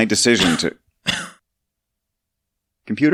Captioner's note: coughing